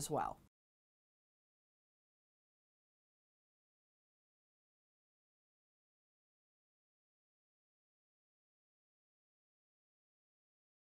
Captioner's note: no Sound Present